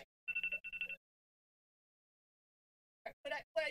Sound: buzzer rings

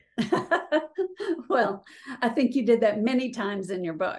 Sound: laughing

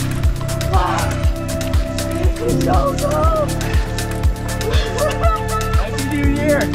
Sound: yells; laughs

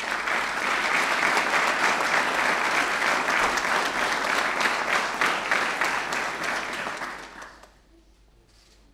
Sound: applause

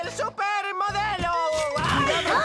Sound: thud!

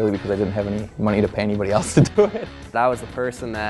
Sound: laughing

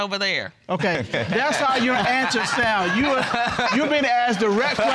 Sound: laughter

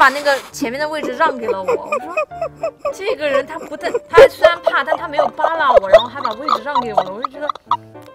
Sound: hahahaha

